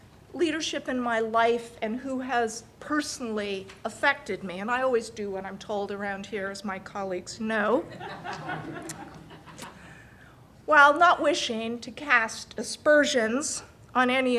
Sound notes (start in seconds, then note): 7.8 laughter